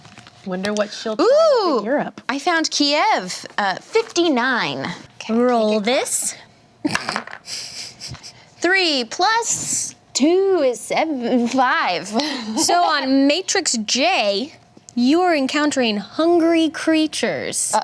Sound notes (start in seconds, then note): 7.0 dice roll; 11.9 laughs